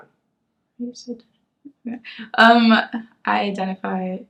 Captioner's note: mumbles to herself